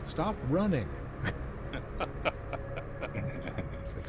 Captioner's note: laughing